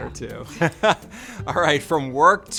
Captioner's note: laughs